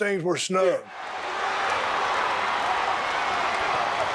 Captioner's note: crowd cheering